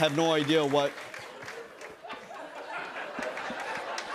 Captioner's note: laughter